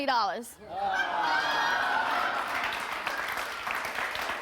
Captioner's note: audience laughs; audience applauds